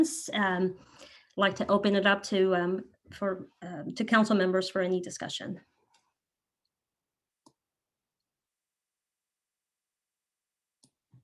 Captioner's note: silence